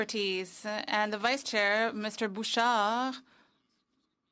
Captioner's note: speaking French